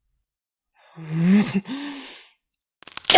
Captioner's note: grunts!; growling